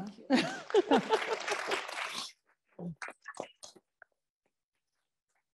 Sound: audience clapping

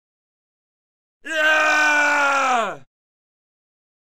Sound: sound of scream

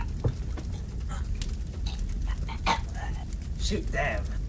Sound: choking sounds

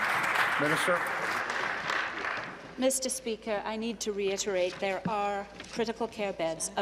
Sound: applause

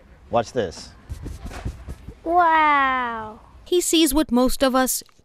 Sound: brushing sound

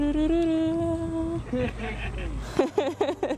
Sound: laughter

